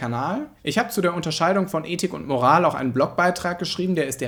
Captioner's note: in German